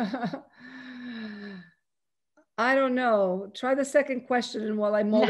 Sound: chuckles

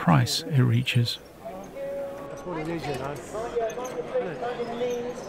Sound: crowd bustling

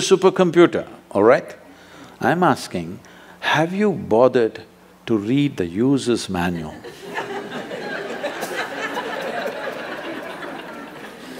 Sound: laughter

